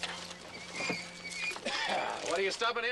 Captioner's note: coughs